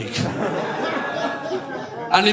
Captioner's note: audience laughing